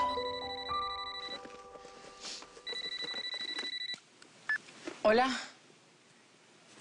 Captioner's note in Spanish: Suena un celular